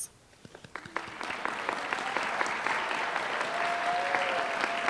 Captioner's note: applause